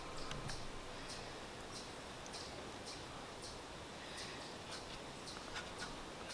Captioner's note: chipmunks chirping